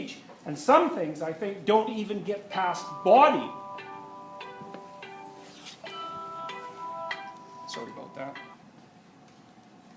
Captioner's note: Dr. Peterson’s phone rings